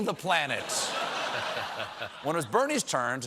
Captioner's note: laughter